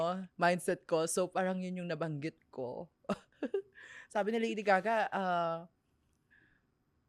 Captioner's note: laughs